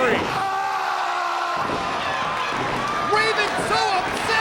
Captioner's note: Raven yelling